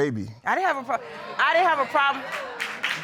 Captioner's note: audience chattering